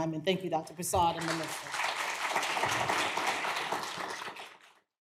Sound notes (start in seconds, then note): 1.1 clapping